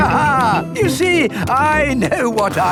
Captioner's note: laughs